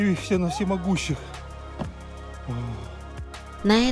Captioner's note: heavy sigh